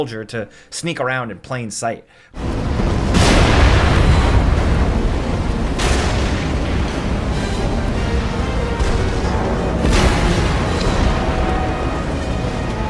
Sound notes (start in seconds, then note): 2.4 dramatic orchestral music; 2.4 explosion blasting